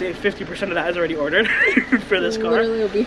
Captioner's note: chuckles